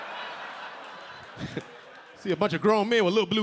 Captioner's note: audience laughing; LilRel laughing